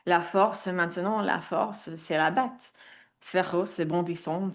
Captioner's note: speaks in French